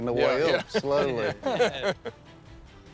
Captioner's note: laughter